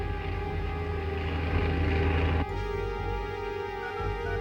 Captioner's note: plane buzzing